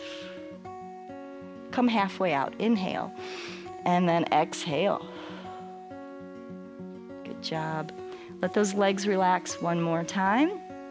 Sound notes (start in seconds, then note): 3.1 exhales